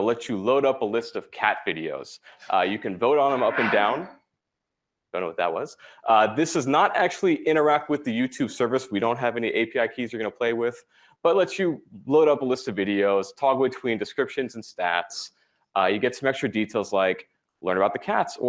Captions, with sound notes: let you load up a list of cat videos. You can vote on them up and down. [CLACKING NOISE] I don't know what that was. This does not actually interact with the YouTube service-- we don't have any API keys you're going to play with-- but it lets you load up a list of videos, toggle between descriptions and stats. You get some extra details, like learn about the cats